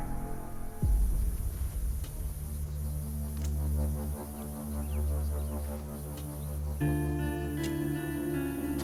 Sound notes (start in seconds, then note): 0.0 moves into slow intense music; 4.5 birds chirping